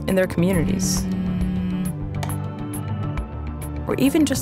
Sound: humming

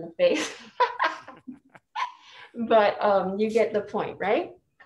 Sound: laughs

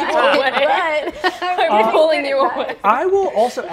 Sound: laughs

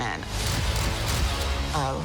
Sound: camera clicking

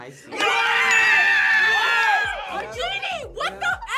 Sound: group yells and cheers

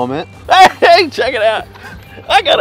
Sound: laughs

